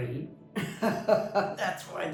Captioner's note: laughs